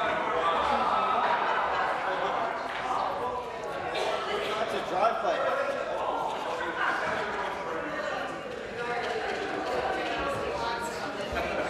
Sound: conversation din

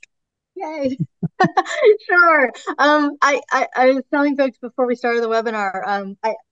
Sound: laughs

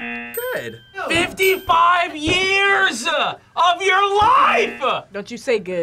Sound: buzzer rings

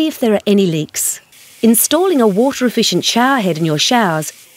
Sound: showerhead with water running

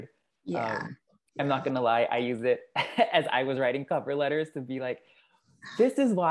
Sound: laugh

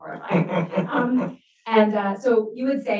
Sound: laughs

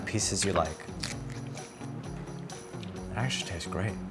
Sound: crunches pineapple

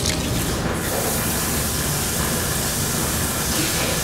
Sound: running water

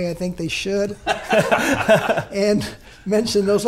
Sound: laughing

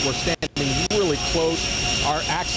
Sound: audio in and out

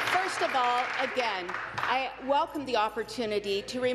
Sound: applause

